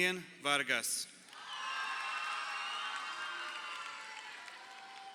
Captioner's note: crowd cheering